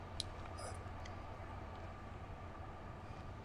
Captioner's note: clicks tongue, stutters